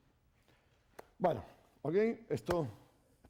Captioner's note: speaking spanish